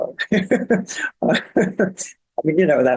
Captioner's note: laughing